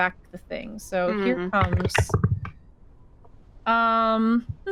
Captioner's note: dice rattling